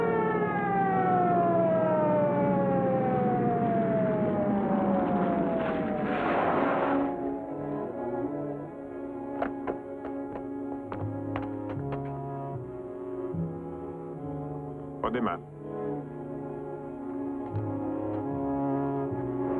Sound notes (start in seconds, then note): 4.9 tires screeching; 6.0 ominous music; 9.3 car doors open; 11.0 ominous music; 17.1 ominous music